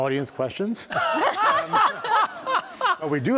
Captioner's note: laughter